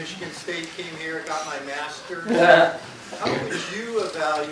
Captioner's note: chortles